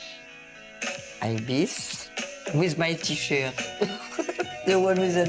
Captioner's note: laughs